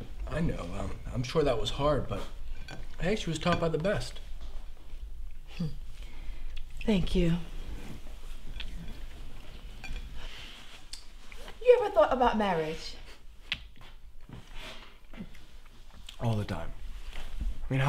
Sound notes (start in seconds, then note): 5.8 chuckles